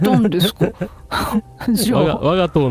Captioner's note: laughter